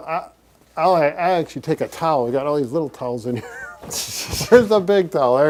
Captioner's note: laughs